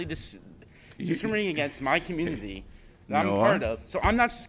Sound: laughter

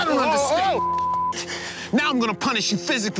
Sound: beeping

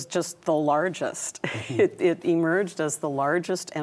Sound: chuckles

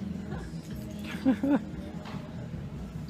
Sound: laughs

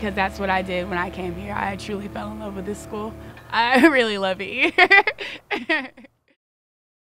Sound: laughter

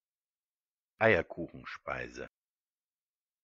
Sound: fast Pronunciation

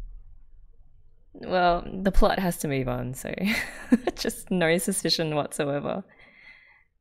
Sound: laughs

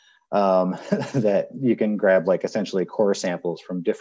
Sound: chuckles

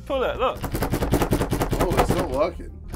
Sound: door clanging

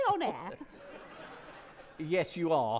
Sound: audience laughing

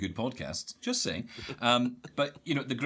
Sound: laughing

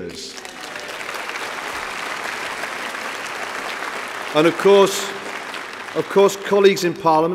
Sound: applause

